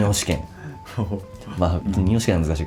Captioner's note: laughs